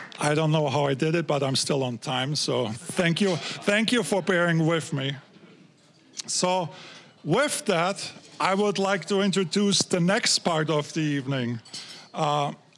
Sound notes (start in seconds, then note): 3.7 audience laughing